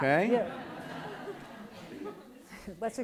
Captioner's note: laughs